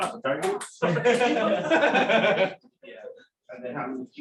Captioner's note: laughter